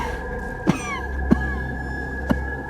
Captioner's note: coughing